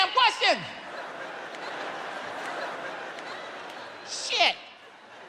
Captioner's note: audience laughs